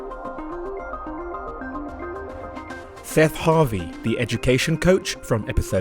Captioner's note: voiceover